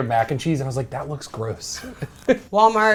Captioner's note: laughs